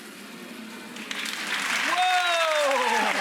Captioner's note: audience claps, cheers